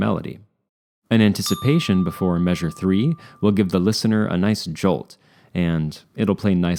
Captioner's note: ding